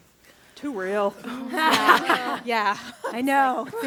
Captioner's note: affirming laughter